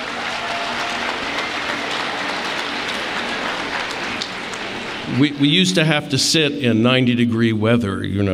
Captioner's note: applause